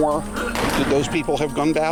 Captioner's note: gun popping